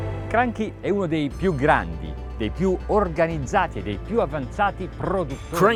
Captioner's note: speaking in foreign language